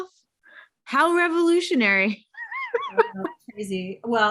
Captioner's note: chuckling